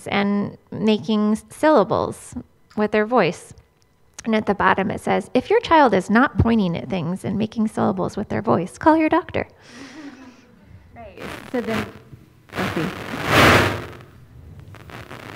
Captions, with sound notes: and making syllables with their voice. And at the bottom it says, if your child is not pointing at things and making syllables with their voice, call your doctor. [MICROPHONE BUZZING]